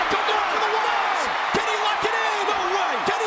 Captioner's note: audience cheers